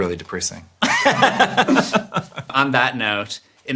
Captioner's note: laughs